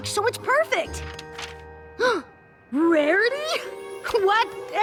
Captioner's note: gasps